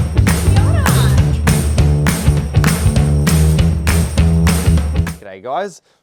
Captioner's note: upbeat music; people chattering